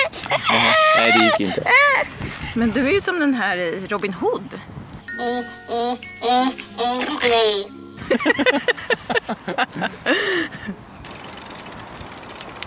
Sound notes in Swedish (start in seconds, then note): 8.0 skrattar